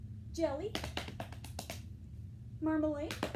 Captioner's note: clapping